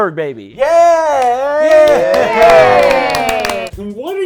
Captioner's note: weak applause